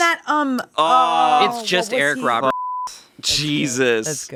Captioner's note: beeping